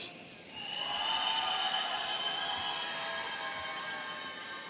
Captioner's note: audience cheering